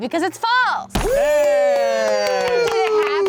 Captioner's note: cheering